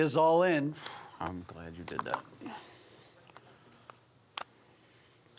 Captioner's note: sighs